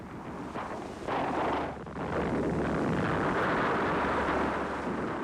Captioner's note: distant explosions echo